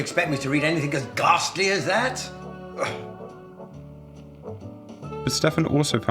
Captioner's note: scoffs